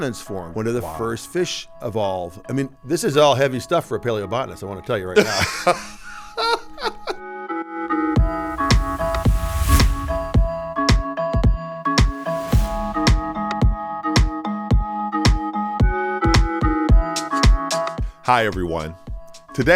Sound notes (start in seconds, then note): 5.2 laughing; 7.9 bright upbeat music